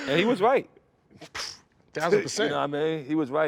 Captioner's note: laughs